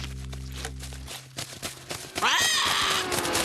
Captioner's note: paco squawking